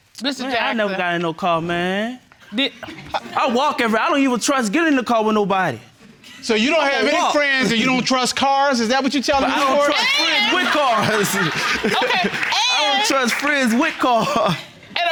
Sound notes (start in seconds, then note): 9.3 laughs